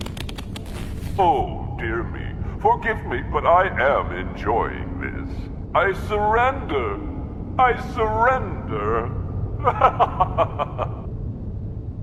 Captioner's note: laughing